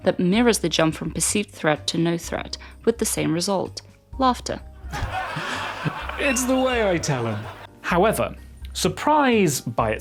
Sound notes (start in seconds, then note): 4.9 intense laughter